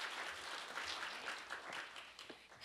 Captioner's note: applause